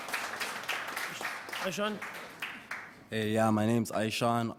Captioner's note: applause